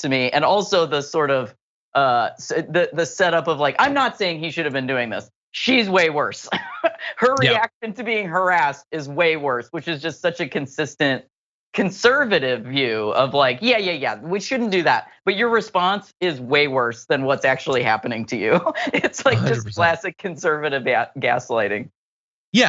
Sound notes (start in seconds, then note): 7.3 laugh; 19.2 laugh